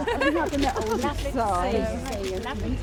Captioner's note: laughs; reporters chattering